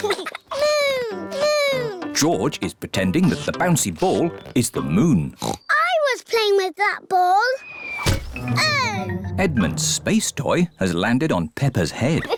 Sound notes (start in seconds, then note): 5.3 oinks; 7.9 thudding